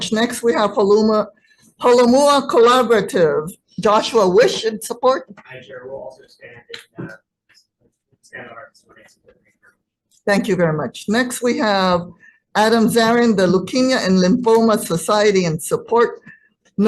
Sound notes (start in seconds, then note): 7.8 audio distortion